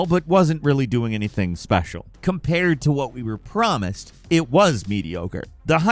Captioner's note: none